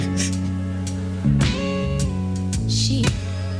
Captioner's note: chuckling; gentle mellow music